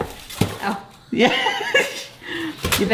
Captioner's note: laughing